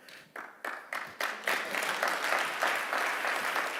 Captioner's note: audience clapping